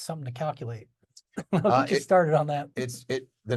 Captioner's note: laughing